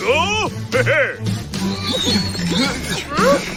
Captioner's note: grunting